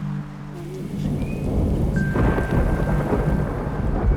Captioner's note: thunder rumbling